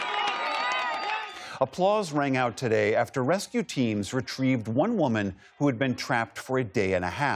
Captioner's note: applause